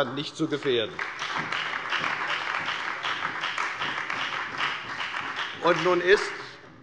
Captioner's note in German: Beifall bei der CDU